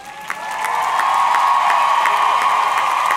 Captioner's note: audience cheering; audience clapping